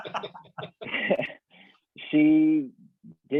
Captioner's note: laughs